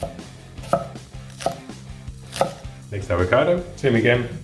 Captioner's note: knife hitting cutting board